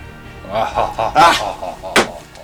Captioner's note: adequately acted evil laugh; slam